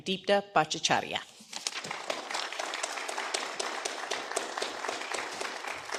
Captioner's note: applause